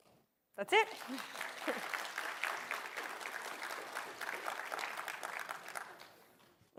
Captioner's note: applause